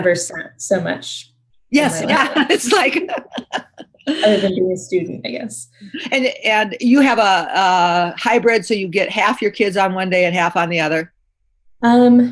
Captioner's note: laughter